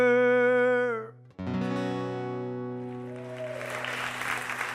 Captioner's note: applause